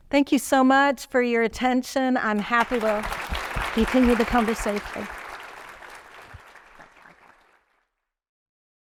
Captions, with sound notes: Thank you so much for your attention. I'm happy to continue the conversation. (audience clapping)